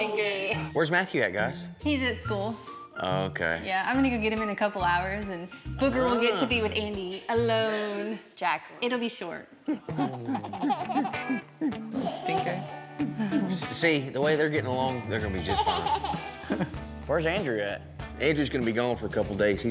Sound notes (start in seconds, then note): 9.6 giggling; 15.5 giggling